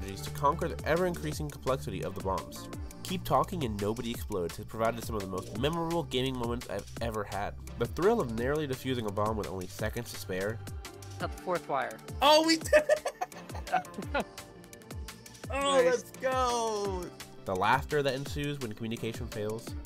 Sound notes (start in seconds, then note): 12.6 laughter